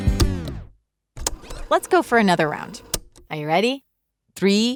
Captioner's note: cassette tape rewinding